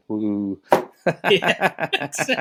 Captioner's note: laughing